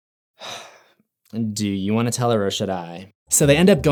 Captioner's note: sigh